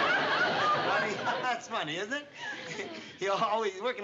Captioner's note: laughs nervously